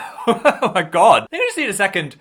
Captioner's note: laughs